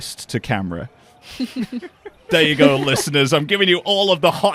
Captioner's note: laughter